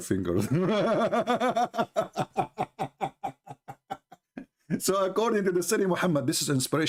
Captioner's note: Ketawa